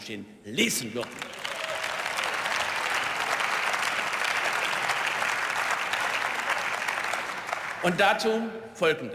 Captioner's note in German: Beifall